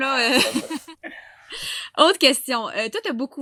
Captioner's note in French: rires